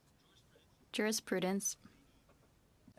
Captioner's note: speaking French